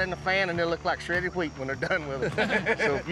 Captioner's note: everyone laughs